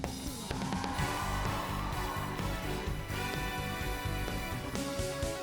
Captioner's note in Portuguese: audience cheering